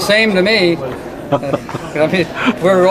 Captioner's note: interviewer laughing